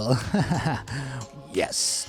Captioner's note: chuckles